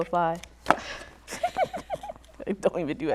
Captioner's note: laughter